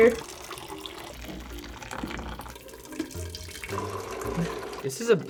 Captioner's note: water pouring